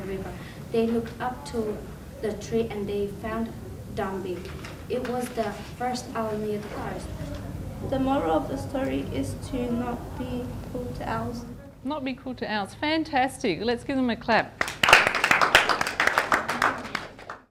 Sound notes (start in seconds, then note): 14.6 all applaud